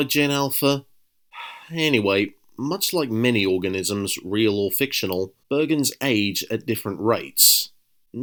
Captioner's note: sigh